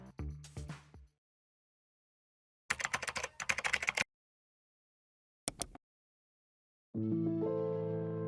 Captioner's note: keyboard keys tapping; whimsical music